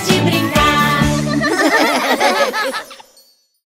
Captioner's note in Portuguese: Risos